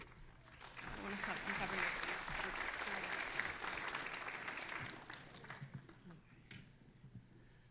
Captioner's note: all applauding